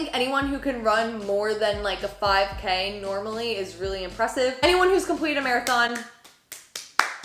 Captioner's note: applause